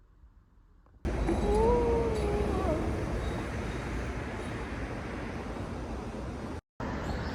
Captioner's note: yawn